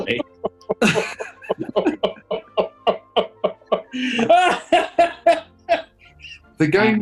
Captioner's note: chortling and laughing